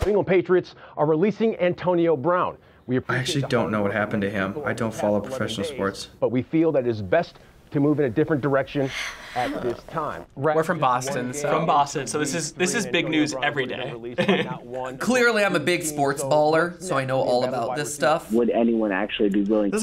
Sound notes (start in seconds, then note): 8.9 both groan; 13.6 laughs